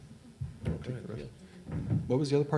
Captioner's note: faintly speaking